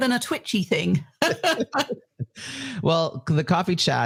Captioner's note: both laugh